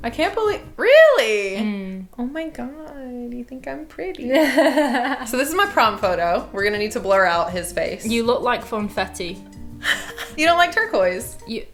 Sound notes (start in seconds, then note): 4.3 laughing; 9.8 laughing